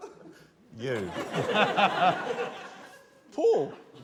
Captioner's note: laughter